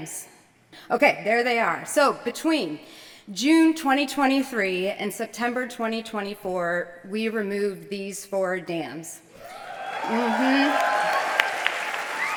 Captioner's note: cheers